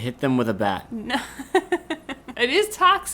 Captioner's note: laughing